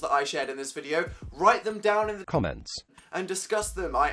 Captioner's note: computerized voiceover